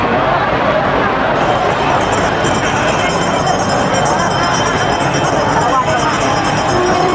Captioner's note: bell ringing; loud horn blaring